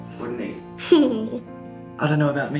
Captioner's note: child laughs